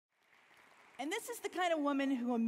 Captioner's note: audience clapping